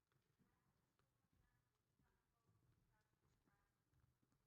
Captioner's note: none